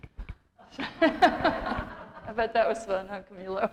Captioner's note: laughter